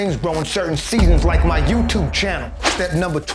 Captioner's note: gong echoing